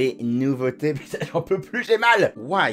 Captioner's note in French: tousse